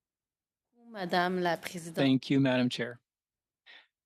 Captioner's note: speaking French